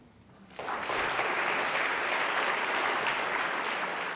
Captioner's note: audience claps